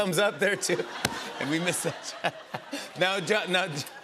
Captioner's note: laughter